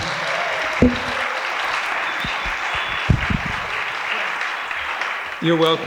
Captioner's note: audience applauding and cheering